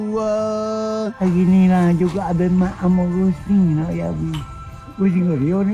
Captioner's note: speaking Kelantanese dialect